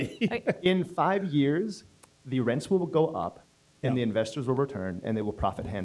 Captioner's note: laughter; laughter